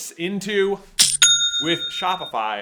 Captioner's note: cha-ching!